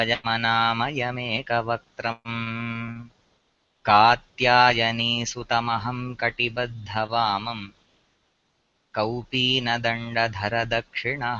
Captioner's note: priest recites prayer